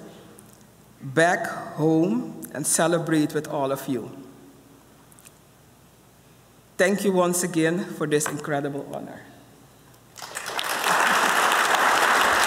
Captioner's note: applause